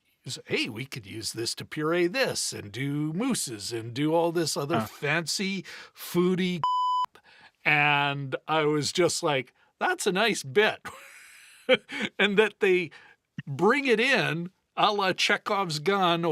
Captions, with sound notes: hey, we could use this to puree this and do mooses and do all this other fancy foodie (beep) and I was just like, that's a nice bit. And that they bring it in a la Chekhov's gun